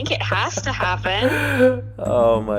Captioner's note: chuckles